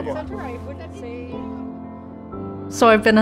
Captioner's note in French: bavardage en famille